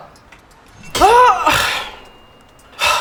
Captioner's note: Lys grunts; sigh